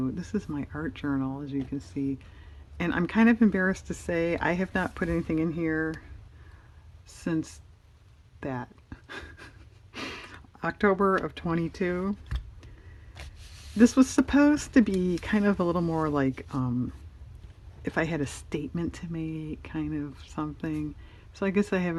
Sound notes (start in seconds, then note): 9.0 laughs